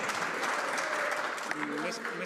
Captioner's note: some Applause